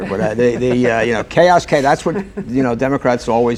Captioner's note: laughter